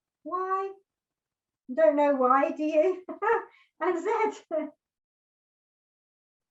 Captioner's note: laughs